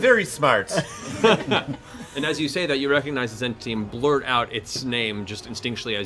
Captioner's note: laughs